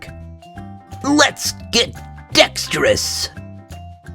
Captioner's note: in cartoon voice